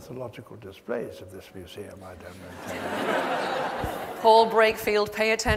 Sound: audience laughs

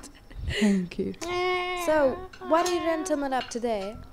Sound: baby crying

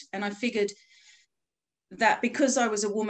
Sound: none

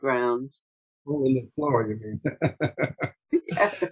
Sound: chuckling

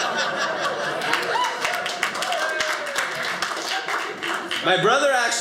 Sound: audience cheering

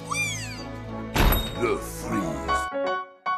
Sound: door bell chimes; piano music

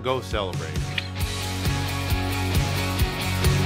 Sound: clicks

